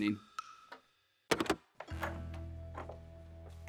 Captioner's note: phone hangs up; dramatic music